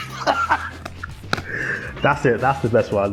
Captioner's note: laughing